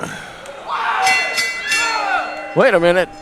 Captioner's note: bell ringing